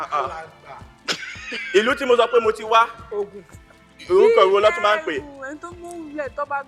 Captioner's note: laughs